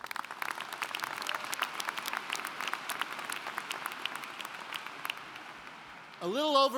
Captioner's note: applauding